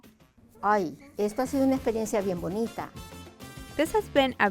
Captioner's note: speaking in foreign language